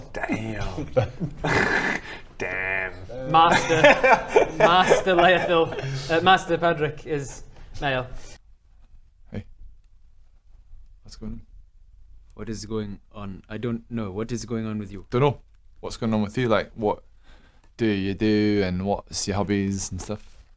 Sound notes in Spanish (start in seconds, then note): 1.4 risas